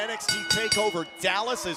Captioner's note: bell ringing